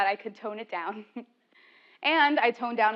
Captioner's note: laugh